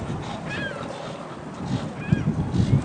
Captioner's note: birds calling